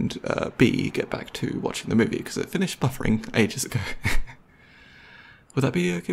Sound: laughs

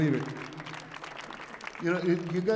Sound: audience applauding

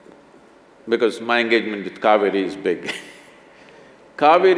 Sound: laughs

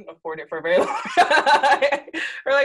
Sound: laughs

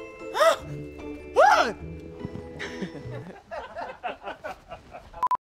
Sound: voice cracks; laughs and coughs; crew laughs; beep beep

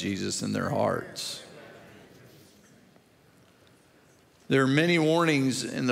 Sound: crowd murmurs amen

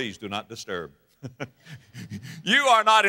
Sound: audience laughter

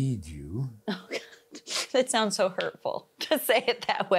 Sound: laughs

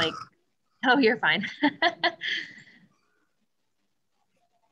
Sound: laughs

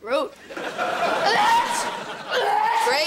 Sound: sneezing

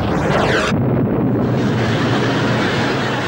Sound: explosion

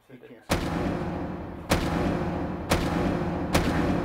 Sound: atmosphere rumbling

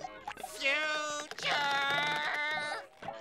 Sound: none

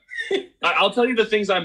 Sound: laughs

